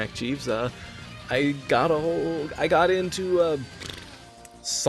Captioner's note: sputters